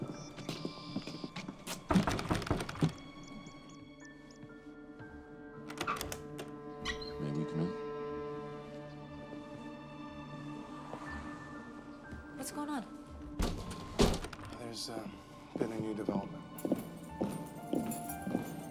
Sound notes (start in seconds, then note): 0.0 birds chirping; 1.9 knock on door